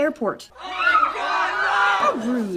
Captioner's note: frightened screams